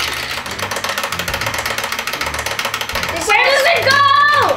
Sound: timer ticking

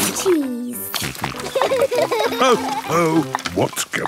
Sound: snorting; laughter

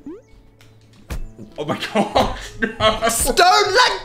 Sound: laughs

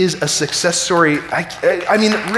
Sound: audience applauding

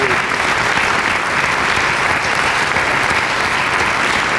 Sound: applause

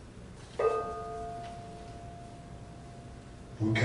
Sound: gong

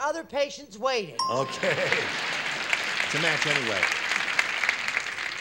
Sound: ding

